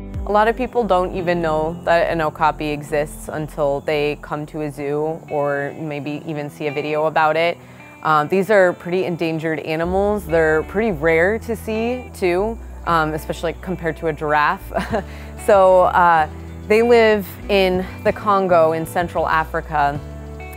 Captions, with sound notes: - A lot of people don't even know that an okapi exists until they come to a zoo or maybe even see a video about it. These are pretty endangered animals. They're pretty rare to see too, especially compared to a giraffe. (laughs) So they live in the Congo in Central Africa,